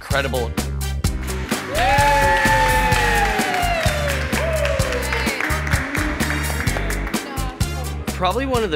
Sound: applause and cheers

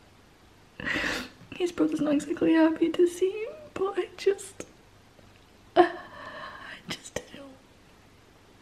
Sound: whispering

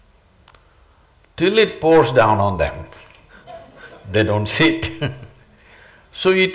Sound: laughs

